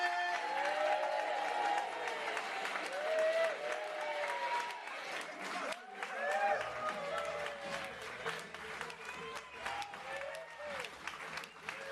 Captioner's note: applause and Cheering